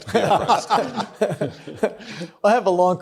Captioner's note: group laughs